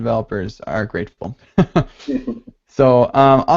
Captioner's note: chuckles